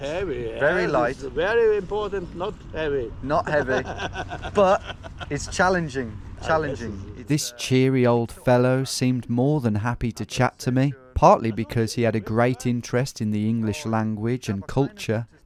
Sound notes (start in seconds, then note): 3.4 man laughing